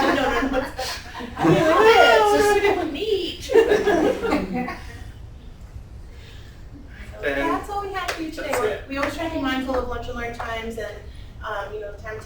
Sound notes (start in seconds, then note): 0.0 laughter and background conversation